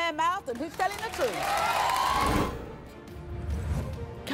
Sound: cheers

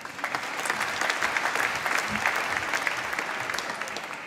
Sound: applause

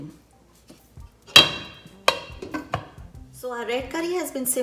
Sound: dishes clinking

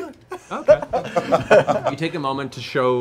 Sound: laughing

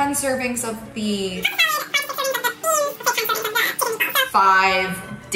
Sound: high pitch sped up voice

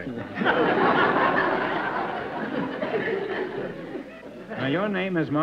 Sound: laughter

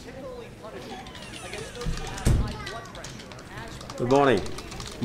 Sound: door banging

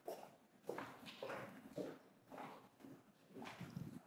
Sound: echoing footsteps

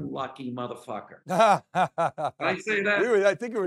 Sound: laughing

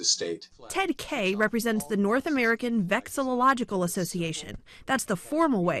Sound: voice-over

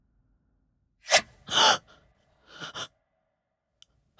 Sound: woman gasping

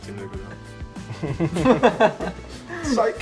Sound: laughing

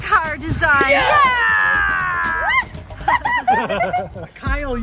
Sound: everyone cheering

